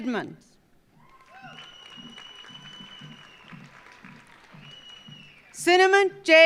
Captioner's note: audience cheering; audience applauding